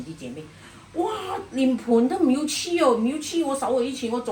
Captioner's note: Cantonese